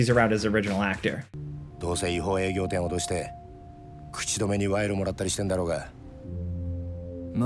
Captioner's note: characters chattering in foreign language